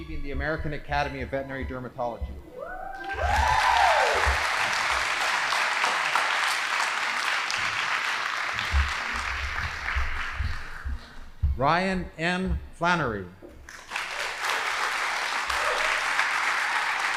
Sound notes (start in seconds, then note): 2.9 audience applauding; 13.6 audience applauding